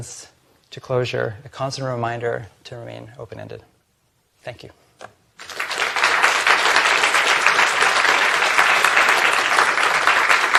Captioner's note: applause